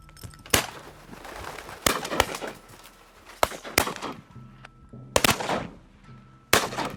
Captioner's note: duck wings flapping; rifles blasting